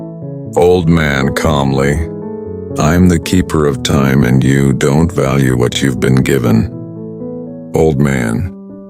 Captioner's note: calmly